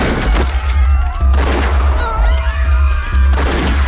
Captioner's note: people screaming